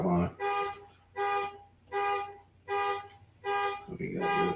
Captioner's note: alarm ringing